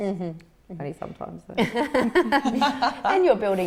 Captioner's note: all laugh